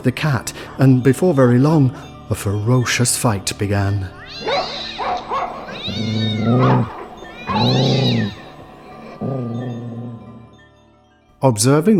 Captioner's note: woof! miaaaaoow!